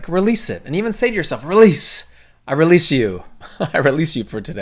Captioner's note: laughing